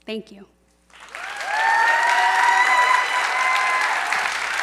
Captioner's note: applause